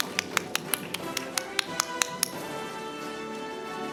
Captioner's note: camera shatters; audience applauding; orchestral music